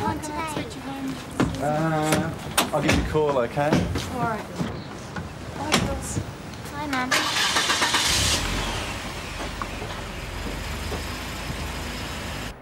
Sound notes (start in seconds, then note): 7.0 starts car